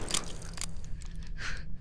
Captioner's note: click